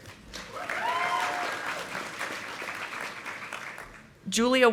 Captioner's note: audience applauding